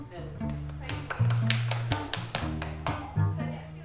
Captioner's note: applause